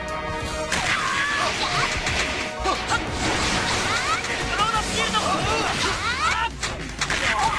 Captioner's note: laughs